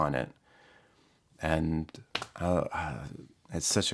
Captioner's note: sigh